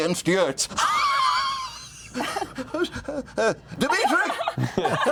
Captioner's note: wheezing laughter